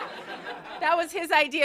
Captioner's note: laughter